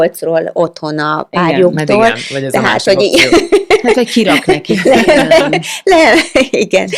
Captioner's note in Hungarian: nevetés